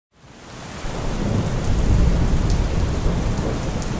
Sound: storm

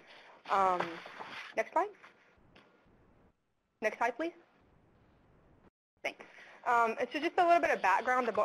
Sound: pause

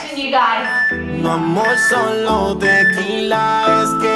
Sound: workout timer beeping

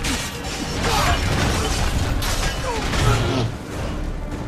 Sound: cannonballs hit ground

